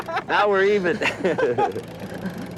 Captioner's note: laughter